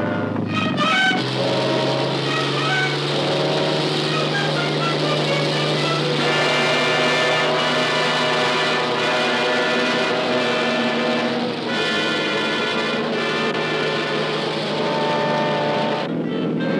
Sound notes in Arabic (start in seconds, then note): 2.5 هدير المحرك; 4.9 هدير المروحية